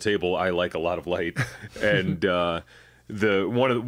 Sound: chuckle

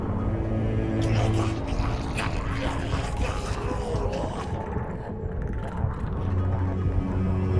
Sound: Skaven chatter

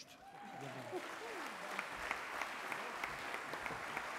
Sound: applause

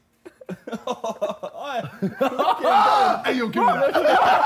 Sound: laughing

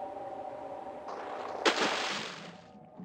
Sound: splash

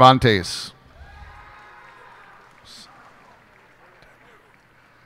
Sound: cheers and applause

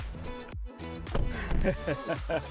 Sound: door shuts; Dad laughs; laughter

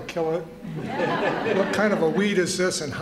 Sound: laughter

